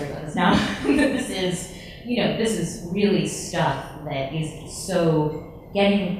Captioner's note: laughs